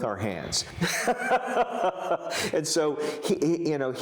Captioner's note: laughs